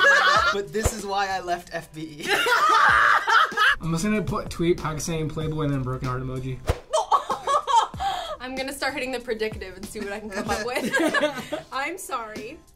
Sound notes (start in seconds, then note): 2.8 all laugh; 6.9 laughs; 10.8 laughs